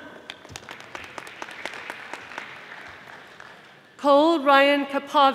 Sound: audience applauding

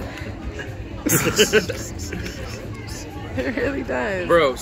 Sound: laughs

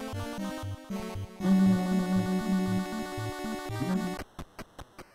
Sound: humming along

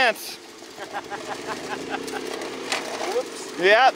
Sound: chuckles

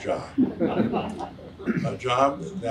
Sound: audience laughs

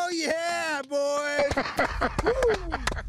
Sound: laughter

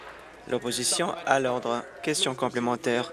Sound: applause

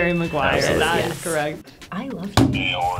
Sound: bell dinging

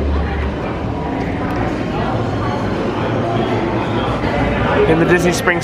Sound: people chattering

